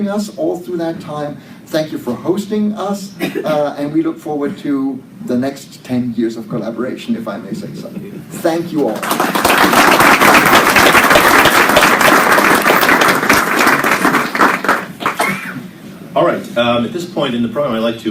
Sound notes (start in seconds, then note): 8.8 applause